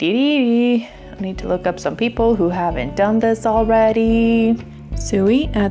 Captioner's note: singsong